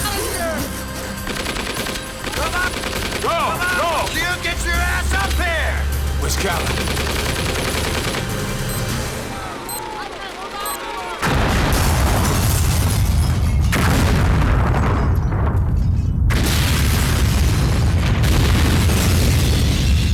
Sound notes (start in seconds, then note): 1.2 gun fires; 8.1 explosives beeping; 11.2 explosion rumbles